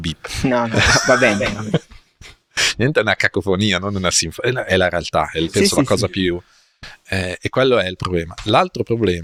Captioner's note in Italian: risate